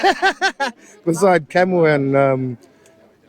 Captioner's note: laughs